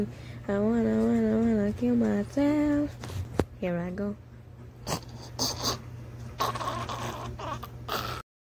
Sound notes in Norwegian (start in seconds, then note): 4.8 intense chocking